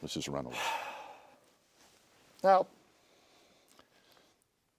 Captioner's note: exhales deeply